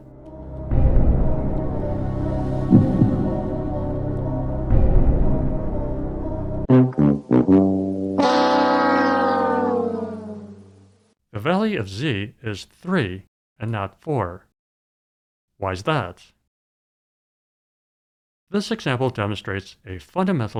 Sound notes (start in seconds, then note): 0.0 suspenseful music; 6.7 losing horn